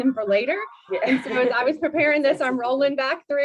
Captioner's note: laughter